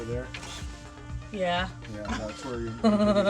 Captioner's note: giggle; laugh